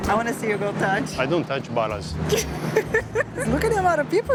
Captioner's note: laughs